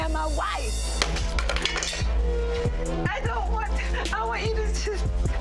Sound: purse hits floor

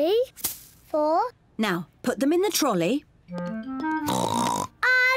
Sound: oinks

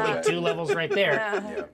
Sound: speaker laughs

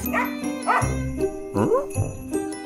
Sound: barking sounds

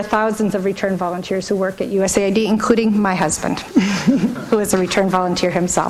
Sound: laughs

